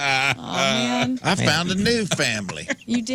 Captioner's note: laughing